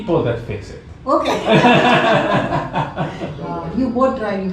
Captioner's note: all laugh